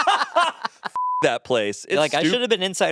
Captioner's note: all laughing; beep